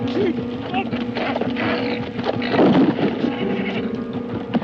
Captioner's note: horse neighing